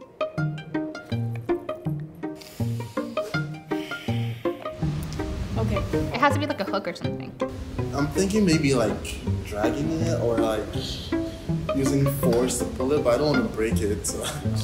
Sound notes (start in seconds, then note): 2.3 inhale; 2.3 exhale